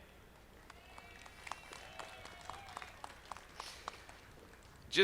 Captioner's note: audience clapping